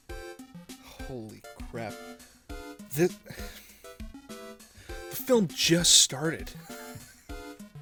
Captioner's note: sigh; gentle, delicate wheeze